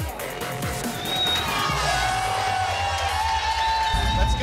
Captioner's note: cheers